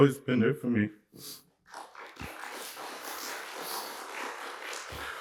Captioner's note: applause